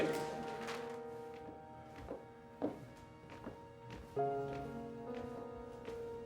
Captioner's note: soft music; heels clack